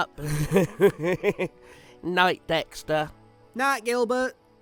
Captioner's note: chuckles